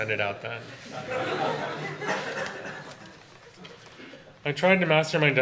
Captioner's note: audience laughter